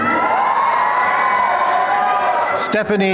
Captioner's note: applause and cheering